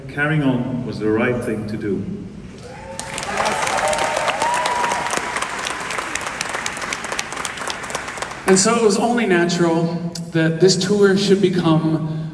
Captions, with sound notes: caring on was the right thing to do. (Crowd cheers.) And so it was only natural, that this tour should become: